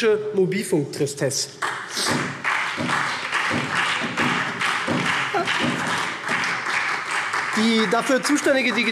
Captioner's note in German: Beifall SPD